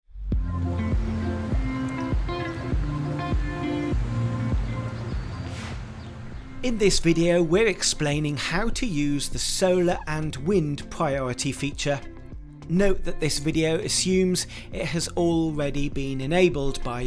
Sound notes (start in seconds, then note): 0.4 bird chirping; 0.4 upbeat music